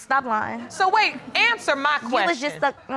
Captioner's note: audience laughing